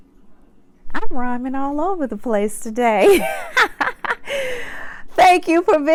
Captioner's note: laughs